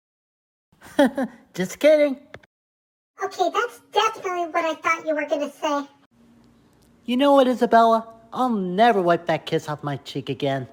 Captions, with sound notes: (CHUCKLES) Just kidding! OK, that’s definitely what I thought you were gonna say. You know what, Isabella? I’ll never wipe that kiss off my cheek again.